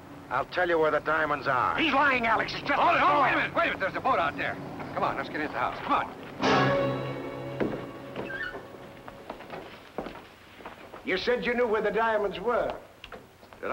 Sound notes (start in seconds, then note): 6.4 dramatic music; 7.6 door creaking